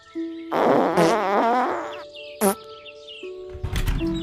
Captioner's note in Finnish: Pieruääniä